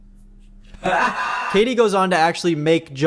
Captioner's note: slowed laugh